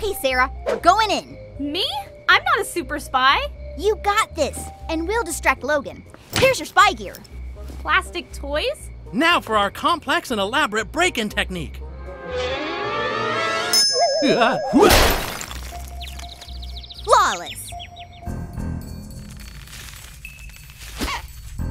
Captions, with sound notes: Okay, Sarah, going in. - Me? I'm not a super spy. - You got this. And we'll distract Logan. Here's your spy gear. - Plastic toys? - Now for our complex and elaborate break-in technique. (bell dings) (crashes) - Flawless. (suspenseful music)